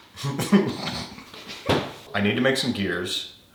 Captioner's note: laughing